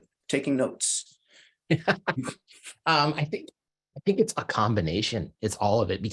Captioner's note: laughs